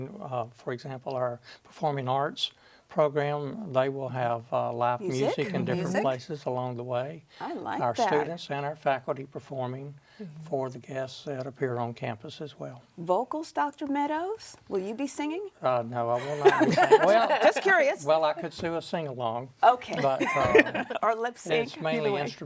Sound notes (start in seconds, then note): 16.2 women laugh